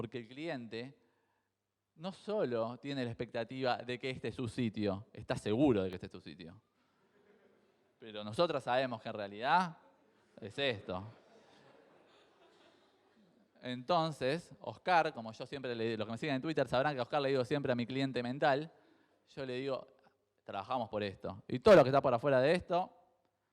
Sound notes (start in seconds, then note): 7.0 crowd chuckles; 10.7 crowd laughs